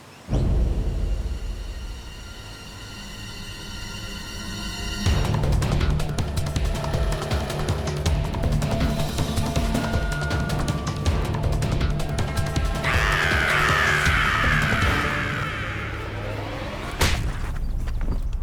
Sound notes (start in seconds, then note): 12.4 shrieks